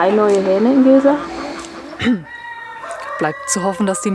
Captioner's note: clears his throat